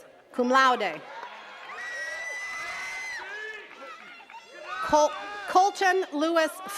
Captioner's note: attendees cheering and clapping